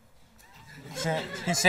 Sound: laughter

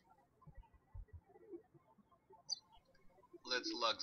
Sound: birds chirping

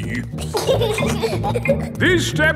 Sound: giggling

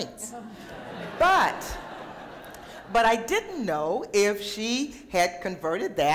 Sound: laughter

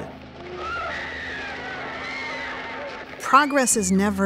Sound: people screaming

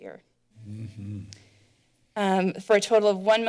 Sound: clicks tongue

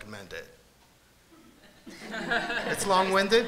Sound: laughter

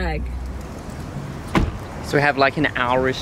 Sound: car door shuts

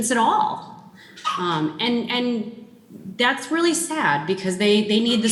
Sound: child chuckling

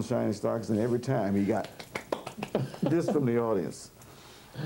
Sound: snaps fingers

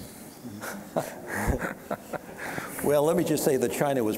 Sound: chuckling

